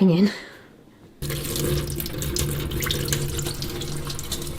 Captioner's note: water draining